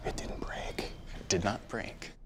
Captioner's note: whispers